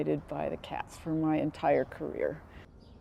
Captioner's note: none